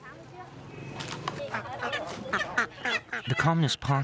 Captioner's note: quacking